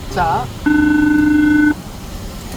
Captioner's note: phone ringing